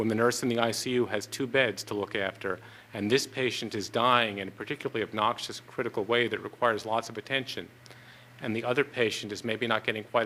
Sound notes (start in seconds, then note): none